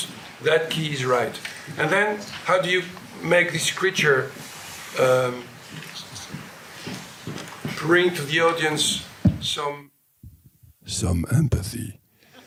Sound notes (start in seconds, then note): 10.3 voice deepens